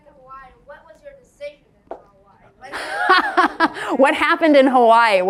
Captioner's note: laughs